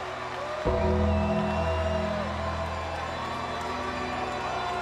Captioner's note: audience cheers